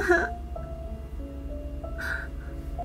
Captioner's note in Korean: 흐느끼는 중